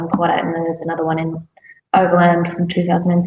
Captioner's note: none